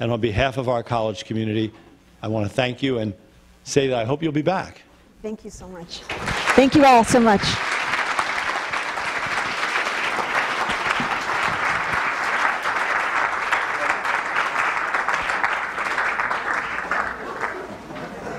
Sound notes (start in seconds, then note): 4.6 audience applause; 7.7 continued applause